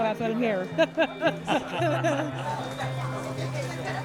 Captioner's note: laughter